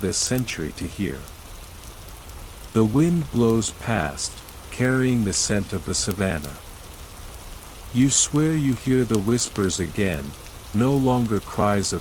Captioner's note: fire crackling